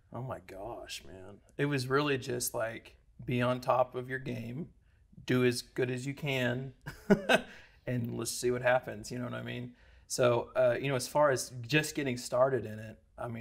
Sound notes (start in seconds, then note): 6.9 laughs